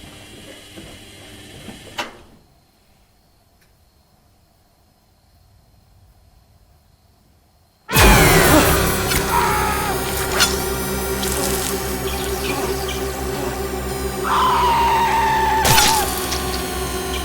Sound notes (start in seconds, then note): 7.9 Beau screaming; 8.0 dramatic music; 11.2 dramatic music; 14.1 Beau screaming